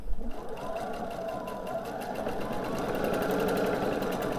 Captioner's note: sewing machine whirring